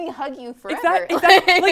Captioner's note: laugh